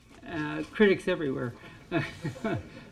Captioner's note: laughter